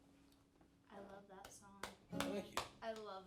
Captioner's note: clapping